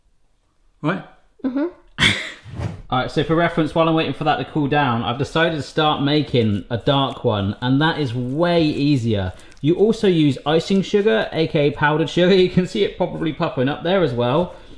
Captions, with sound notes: Right? - Mm-hmm. - (laughing) All right, so for reference, while I'm waiting for that to cool down, I've decided to start making a dark one, and that is way easier. You also use icing sugar, aka, powdered sugar. You can see it properly puckering up there, as well.